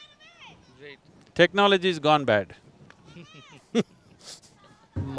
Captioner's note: laughs